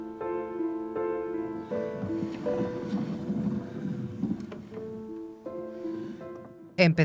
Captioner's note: gentle music continues; globe rumbles